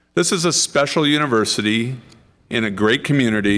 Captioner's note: none